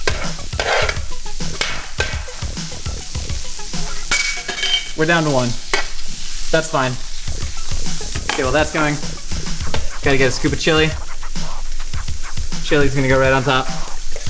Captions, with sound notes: (chopping) (loudly dropping) We're down to one. That's fine. Get all that going. Gotta get a scoop of chili. Chili's gonna go right on top.